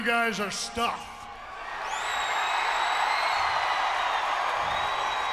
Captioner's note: audience cheering